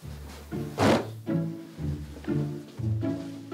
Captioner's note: thud!